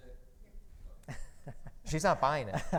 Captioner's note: laughs; laughing